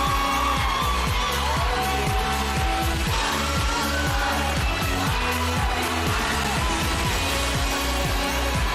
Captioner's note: audience cheering; theme music playing